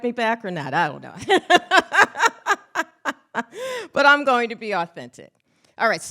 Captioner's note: laughs